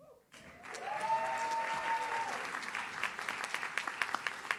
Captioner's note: audience cheers